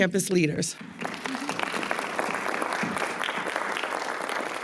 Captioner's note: attendees applauding